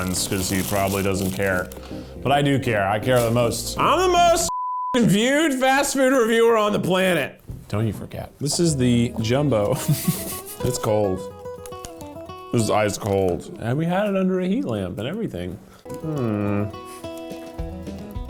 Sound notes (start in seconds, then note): 9.6 chuckling; 16.0 humming